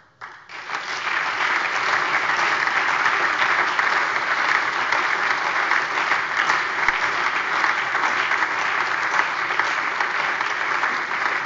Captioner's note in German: Allgemeiner Beifall